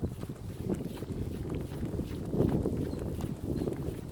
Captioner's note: wind blowing